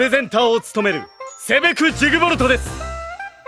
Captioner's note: he is loud